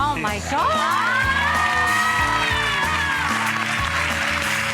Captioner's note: audience appluads